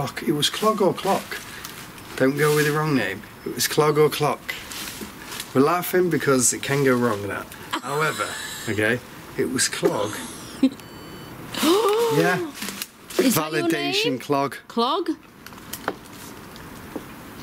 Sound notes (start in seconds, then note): 7.7 laughs; 9.8 sensor beeps; 10.4 gasps